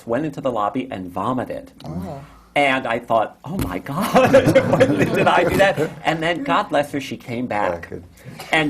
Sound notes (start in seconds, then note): 4.2 laughs